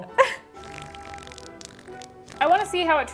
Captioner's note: laughing; juicy farting